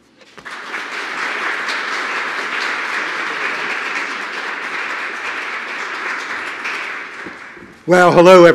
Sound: applause

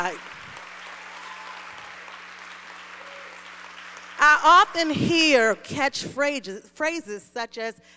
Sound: applause

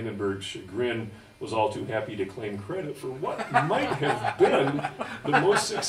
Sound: audence Laughs

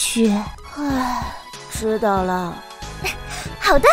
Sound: sigh

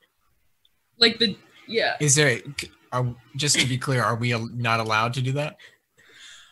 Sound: stammers

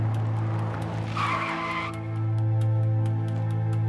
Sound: screeching tires

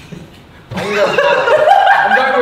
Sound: Josh laughs

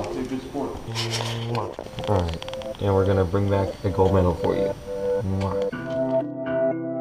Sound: kiss sound

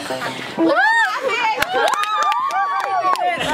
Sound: cheers

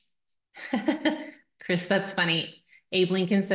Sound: chuckles

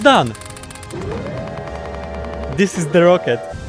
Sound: intense spaming in slavic

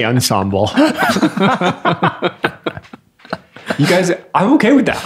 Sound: all laughing

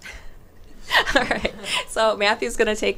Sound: chuckles

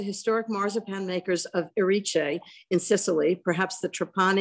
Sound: speaks Italian

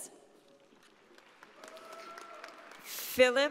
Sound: audience applauding

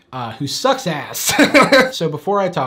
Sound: laughs loud

